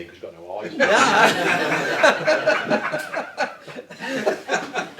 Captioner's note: all laughing